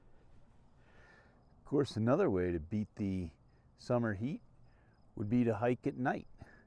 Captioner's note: crickets chirping, gravel crunching underfoot